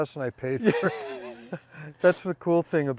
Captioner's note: both laughing